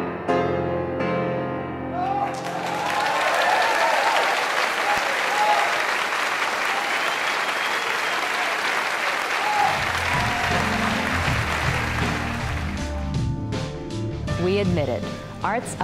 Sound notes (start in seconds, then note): 1.9 cheers and applause